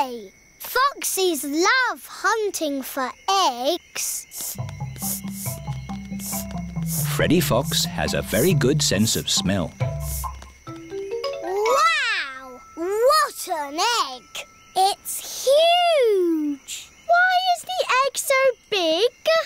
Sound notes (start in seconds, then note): 4.3 sniffing